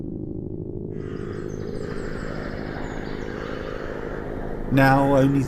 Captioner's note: birds squawking